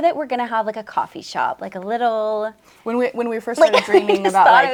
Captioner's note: laughs